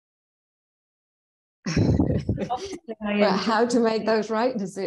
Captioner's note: both laughing